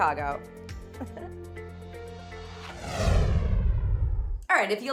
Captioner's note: both chuckling